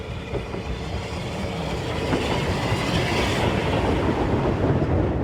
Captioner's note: train passes